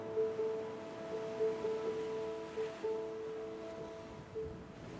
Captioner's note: gentle music; waves crashing; gentle music